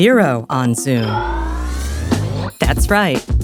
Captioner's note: screen whooshing